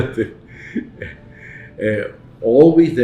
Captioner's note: chuckles